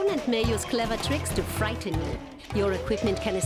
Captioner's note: none